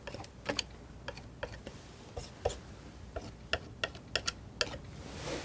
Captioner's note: tapping